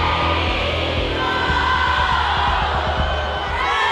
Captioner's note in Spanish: fanáticas alentando y cantando